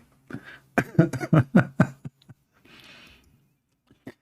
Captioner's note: Ketawa